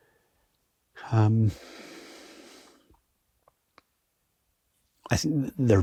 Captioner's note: breaths deeply